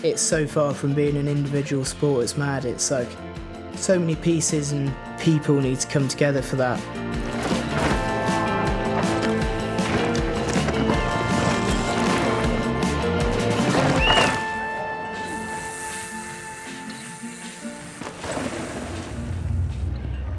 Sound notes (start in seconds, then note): 8.5 upbeat music; 13.7 whistle blowing